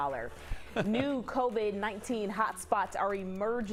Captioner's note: laughter